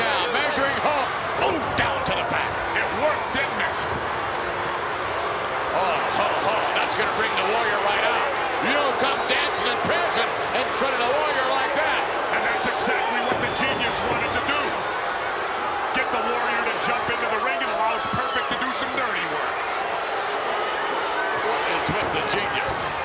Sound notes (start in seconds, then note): 0.0 applause; 4.2 applause; 19.9 applause